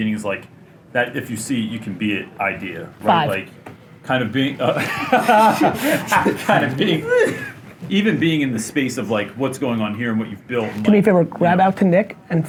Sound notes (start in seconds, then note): 4.6 laughs